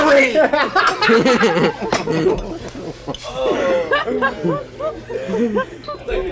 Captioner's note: everyone laughs